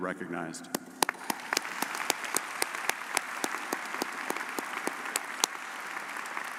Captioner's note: audience cheering and applauding